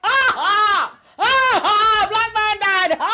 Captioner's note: screaming